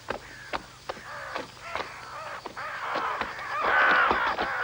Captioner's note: crows scream